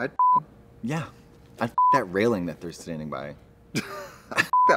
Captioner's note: beep; beep